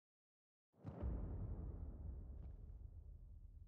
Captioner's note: thuds